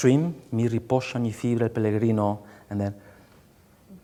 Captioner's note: speaking song lyrics in a foreign language